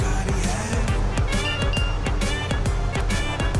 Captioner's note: Message tone